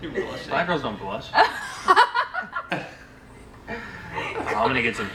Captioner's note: laughing